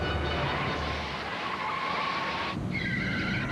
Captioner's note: tires screeching